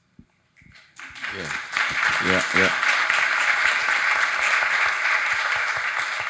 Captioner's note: audience applauding